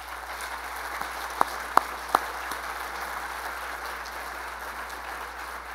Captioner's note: applause